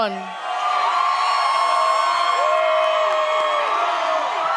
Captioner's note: audience cheers